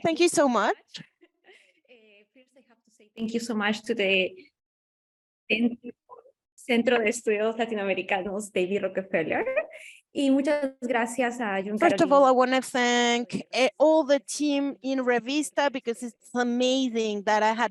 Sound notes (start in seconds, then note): 7.0 speaking Spanish